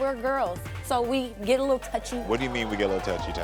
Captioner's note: audience exclaiming